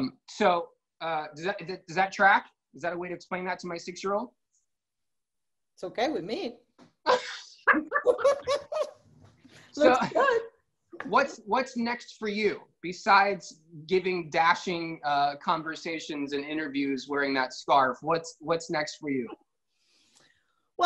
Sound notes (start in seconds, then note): 7.6 laughter